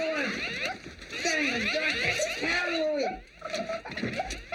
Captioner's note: shouts; laughing